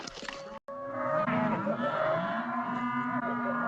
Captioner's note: cattle mooing